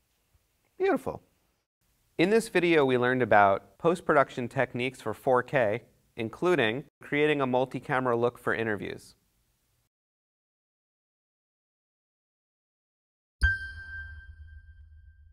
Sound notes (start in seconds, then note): 13.4 dinging